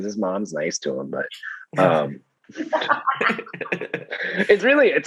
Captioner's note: laughing